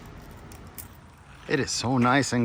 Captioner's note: packet whirring